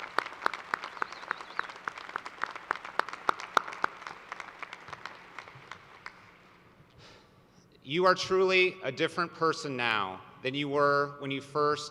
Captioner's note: applause